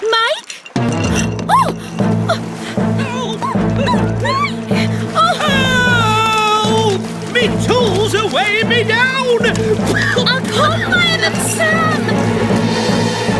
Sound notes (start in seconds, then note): 5.5 spluttering; 9.3 spluttering